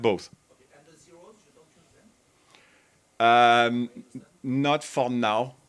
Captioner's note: faintly speaks